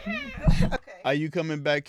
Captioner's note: laughing